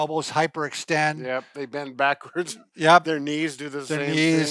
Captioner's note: chuckles